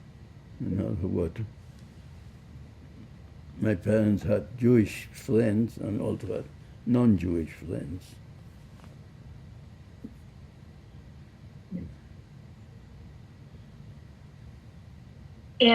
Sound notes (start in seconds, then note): none